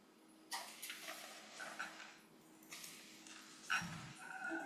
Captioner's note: papers rustling